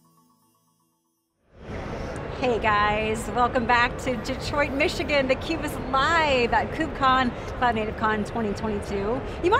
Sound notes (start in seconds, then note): 1.2 crowd talking indistinctly in the background